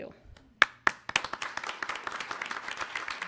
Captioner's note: applause